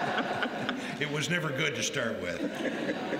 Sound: laughter

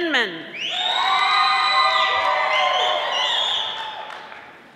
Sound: audience applauding

